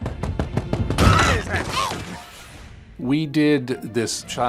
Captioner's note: hand knocking; Spazzatura screaming